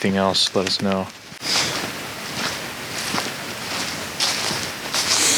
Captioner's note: leaves rustle